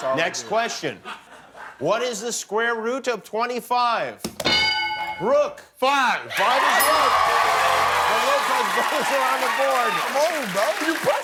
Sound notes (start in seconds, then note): 6.9 applause